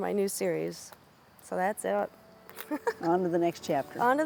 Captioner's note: laughing